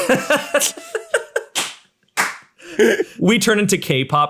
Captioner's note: laughing loudly; claps